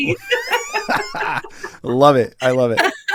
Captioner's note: laugh